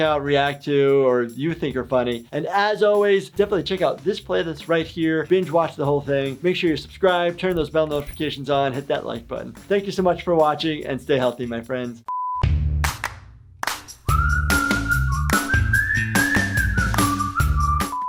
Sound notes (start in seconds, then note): 12.1 high pitch beep; 13.7 upbeat music